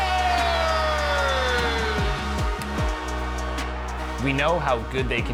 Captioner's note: crowd cheering